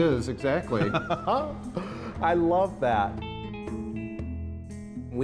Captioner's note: laughs